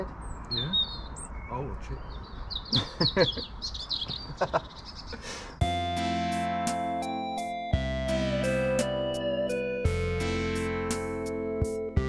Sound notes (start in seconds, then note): 2.7 laughing; 5.6 relaxing music